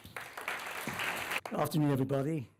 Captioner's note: applause